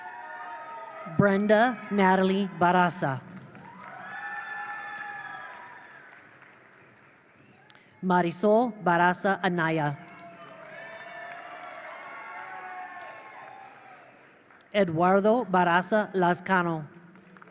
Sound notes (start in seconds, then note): 3.3 attendees applaud; 3.8 attendees cheer; 10.0 attendees cheer; 10.0 attendees applaud